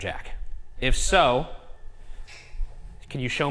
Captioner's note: object clicks